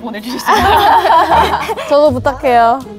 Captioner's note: just laughs